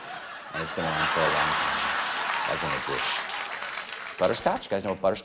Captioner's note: laughter; applause